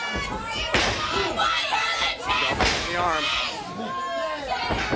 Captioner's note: crowd cheering